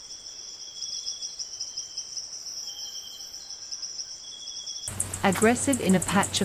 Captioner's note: birds chirping and singing